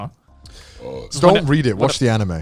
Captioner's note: burps